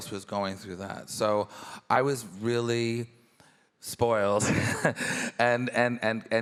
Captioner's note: chuckles